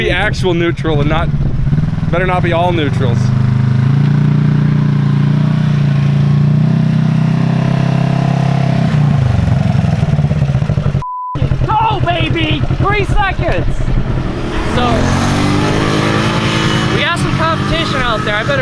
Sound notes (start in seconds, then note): 4.3 ATV engine roaring; 11.0 beep